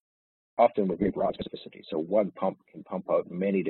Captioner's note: audio distorts